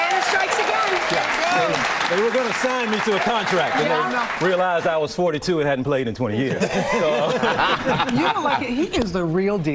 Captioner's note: cheers and applause